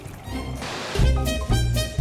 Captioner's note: static crackling and hissing